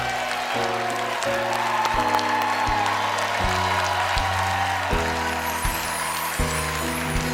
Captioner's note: cheers and applause